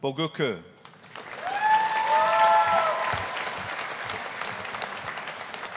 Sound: audience applauding

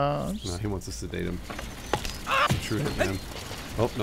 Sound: in game scream

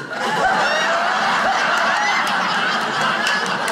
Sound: audience laughing

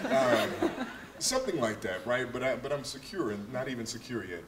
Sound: laughter

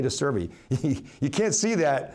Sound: laughs

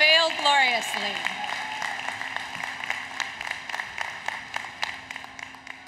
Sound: applause, Cheering

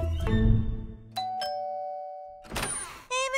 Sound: ringing

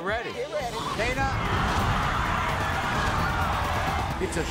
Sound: audience yells

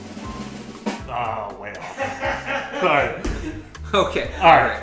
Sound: drum roll; laughs off camera

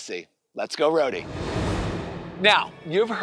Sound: air whooshing

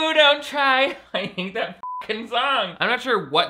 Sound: beep

